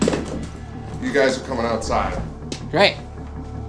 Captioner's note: chair scraping across the floor